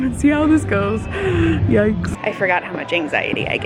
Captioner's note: gasps